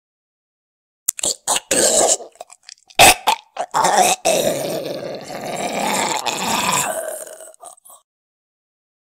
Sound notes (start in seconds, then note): 0.0 sound of zombie